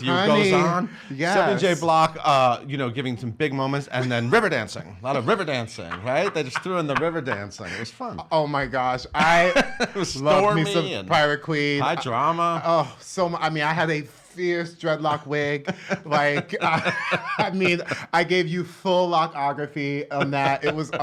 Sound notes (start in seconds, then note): 5.2 laughs; 9.2 laughs; 15.1 laughs